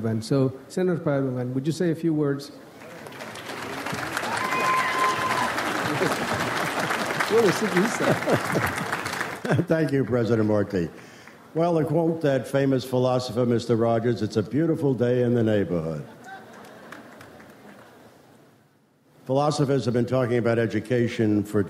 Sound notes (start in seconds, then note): 2.8 audience applauds; 7.4 speaks in foreign language